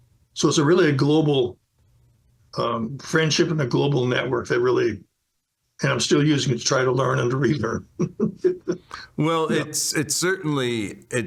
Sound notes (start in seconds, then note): 8.0 laughs